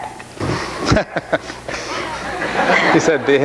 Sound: laughs

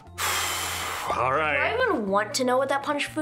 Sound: sighs

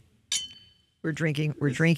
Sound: glasses clink

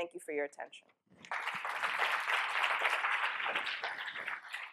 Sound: applause

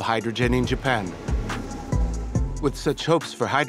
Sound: train engine roaring

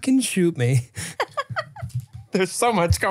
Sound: laughs

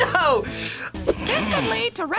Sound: laughs

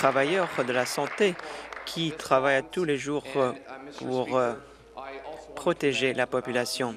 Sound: applause

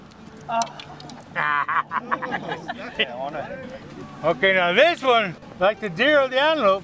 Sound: laughter

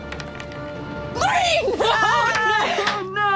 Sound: dice clattering; exclaims

